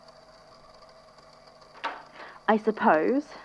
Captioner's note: lock clicking open